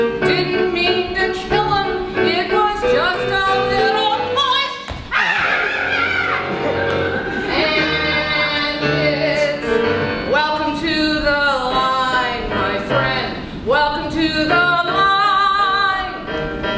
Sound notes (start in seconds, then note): 5.1 horrified scream